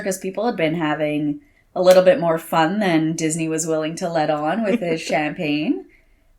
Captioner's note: chuckles